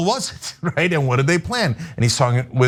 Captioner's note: laugh